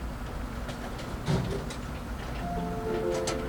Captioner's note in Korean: 공사 소리